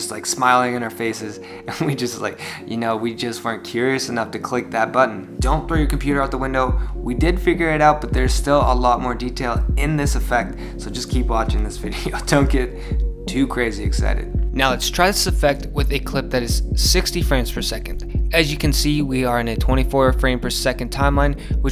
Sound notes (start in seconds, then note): 12.0 laughs